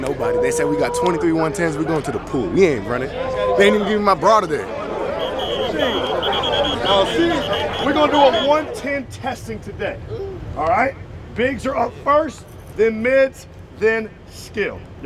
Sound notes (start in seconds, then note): 5.0 whistle blowing